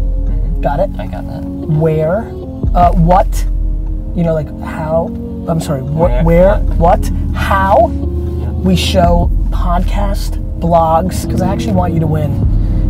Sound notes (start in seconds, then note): 1.9 stammers